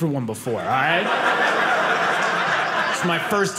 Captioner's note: audience laughing